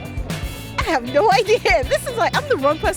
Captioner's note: laughs